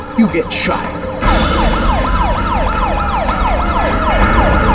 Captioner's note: sirens wailing